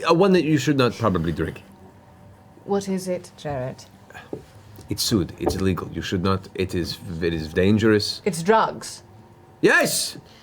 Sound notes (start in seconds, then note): none